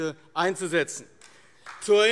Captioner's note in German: Beifall AfD